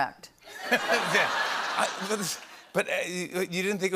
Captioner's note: laughter